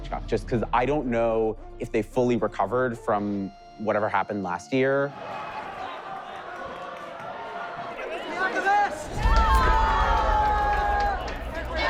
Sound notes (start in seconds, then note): 5.1 crowd ambience; 9.5 cheers